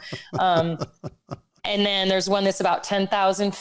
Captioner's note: laughs